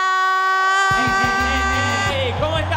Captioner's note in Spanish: Aplausos